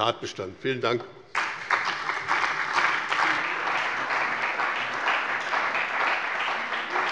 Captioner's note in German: Beifall bei dem BÜNDNIS 90/DIE GRÜNEN und der CDU